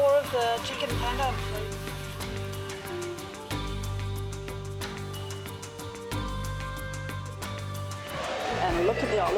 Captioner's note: traditional music; laughing